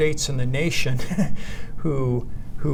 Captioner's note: laughs